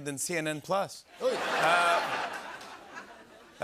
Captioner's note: laughter